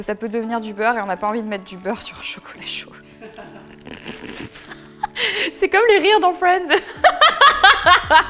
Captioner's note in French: Rire